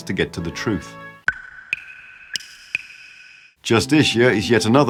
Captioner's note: water dripping sounds